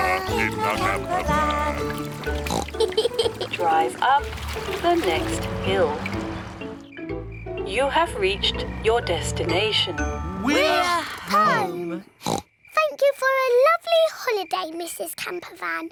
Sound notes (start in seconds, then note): 2.0 oinks and giggles; 12.2 oinks